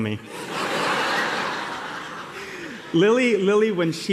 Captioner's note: laughter